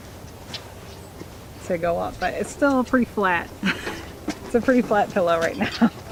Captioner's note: laughing